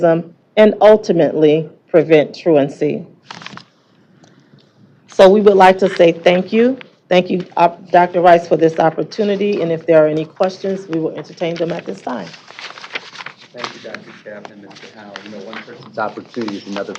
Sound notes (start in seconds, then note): none